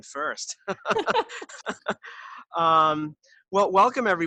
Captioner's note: both laughing